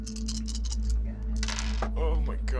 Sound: suspenseful music; dice clacking

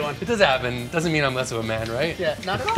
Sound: laughs

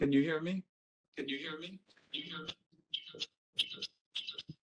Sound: echoes

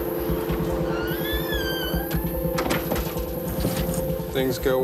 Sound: door squeaking shut

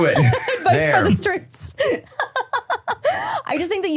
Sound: laughing

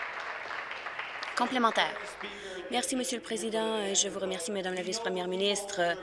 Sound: applause

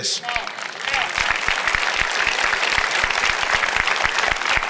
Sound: audience applauding

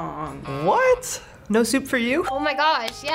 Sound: buzzer rings; bell rings

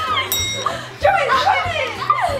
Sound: triumphant bell sound; family laughing and cheering

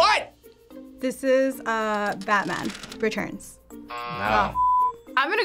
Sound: buzzer rings

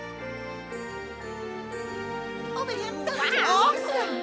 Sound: excited chattering

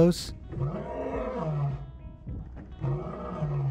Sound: lion roars

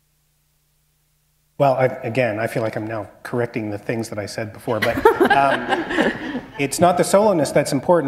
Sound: laughter

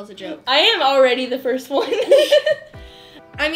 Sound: laughs

